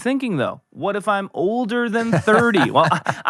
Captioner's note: laughing